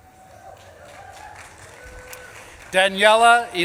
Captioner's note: audience claps and cheers